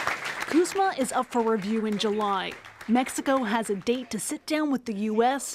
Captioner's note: applause